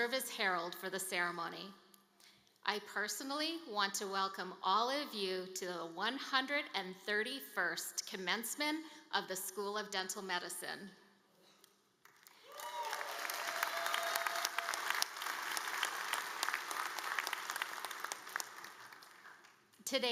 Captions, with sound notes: Dean for Academic Affairs at the School of Dental Medicine, and will serve as Herald for the ceremony. I personally want to welcome all of you to the 131st Commencement of the School of Dental Medicine. (APPLAUSE)